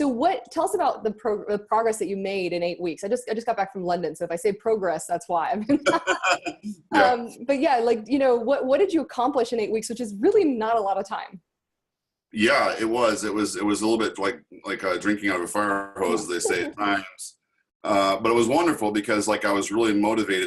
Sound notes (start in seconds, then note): 5.7 laughing